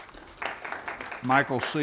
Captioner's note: applause